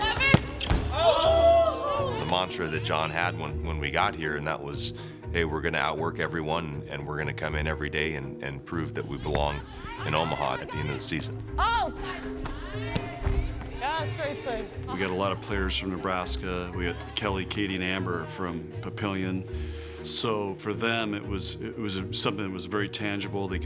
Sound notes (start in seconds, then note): 12.4 players shouting